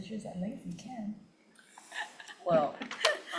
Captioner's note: laughs